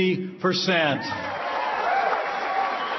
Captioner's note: applause